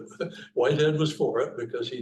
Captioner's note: chuckling